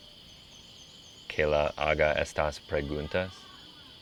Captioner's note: speaking Spanish